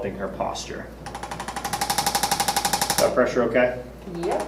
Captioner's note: ArthroStim rattles